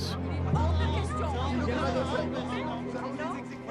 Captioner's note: <i> people yelling</i>